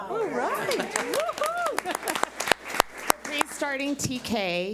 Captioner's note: audience applauds